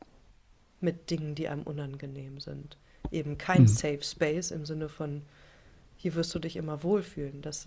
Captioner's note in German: räuspern